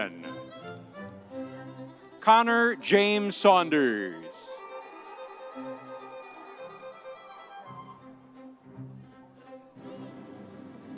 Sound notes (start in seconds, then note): 0.3 audience cheering; 4.4 audience cheering; 7.3 upbeat music continues